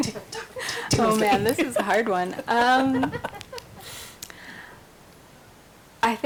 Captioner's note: group laughs